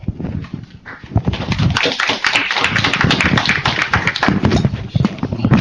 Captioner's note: applause